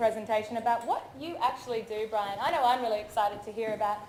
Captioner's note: none